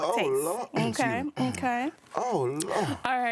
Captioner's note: clearing throat